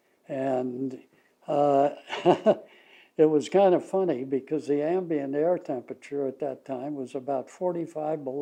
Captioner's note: laughs